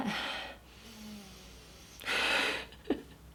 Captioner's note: buzz; laughs